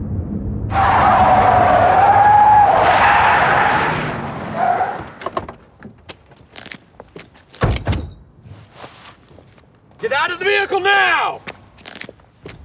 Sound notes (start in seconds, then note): 0.6 tires screeching; 7.6 gun clicking